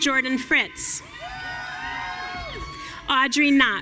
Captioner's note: audience cheering